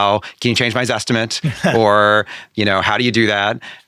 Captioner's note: laughing